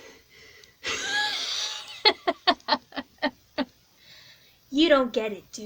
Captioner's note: laughs